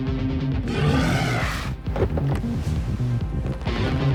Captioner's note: suspenseful guitar music; minion roars